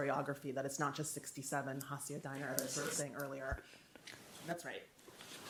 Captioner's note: faintly speaking